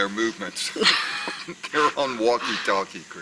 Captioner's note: laugh